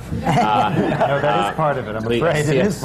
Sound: laughter

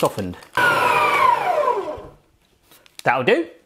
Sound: mixer whirs

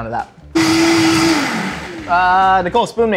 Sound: blender grinding

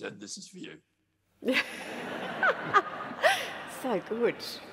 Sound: laughter

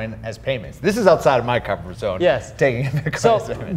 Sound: laughing

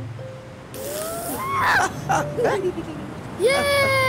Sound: laughing

